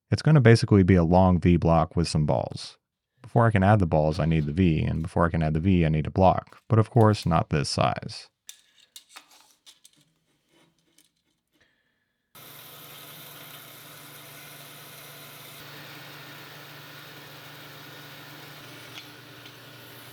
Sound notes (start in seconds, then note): 8.4 tape measurer rattling; 12.3 saw whirring